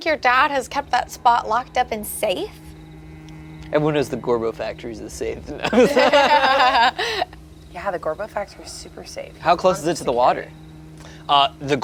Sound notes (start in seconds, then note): 5.5 everyone laughs